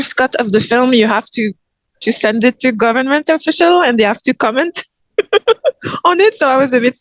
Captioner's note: laughs